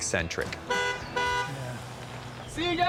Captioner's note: honks horn